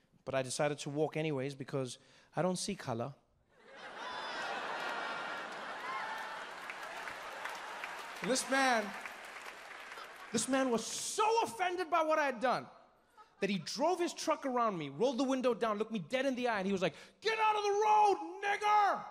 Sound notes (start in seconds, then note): 3.6 crowd laughing and cheering